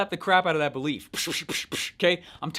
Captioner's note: fake slapping noise